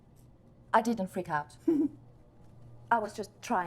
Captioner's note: Tom giggling